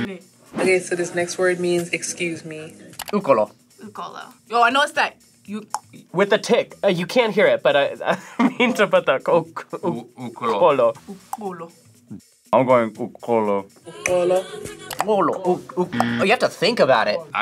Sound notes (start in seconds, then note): 5.7 clicks tongue; 11.3 clicks tongue; 16.0 clicks tongue